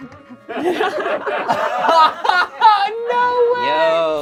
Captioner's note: group laughs